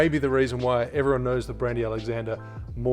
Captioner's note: none